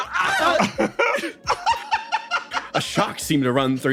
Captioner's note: laugh